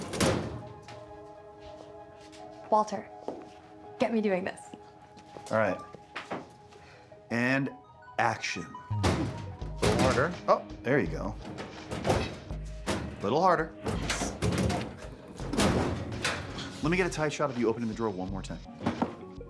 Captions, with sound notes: - Walter, get me doing this. - All right. And action. (cabinet rattling) Little harder. Oh, there you go. Little harder. (cabinet rattling) Lemme get a tight shot of you opening the drawer one more time.